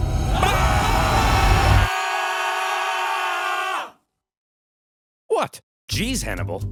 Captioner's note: Carthaginian soldiers screaming